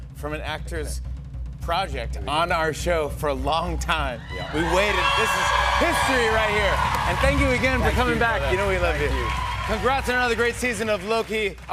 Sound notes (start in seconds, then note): 4.0 drum roll; 9.3 cheers and applause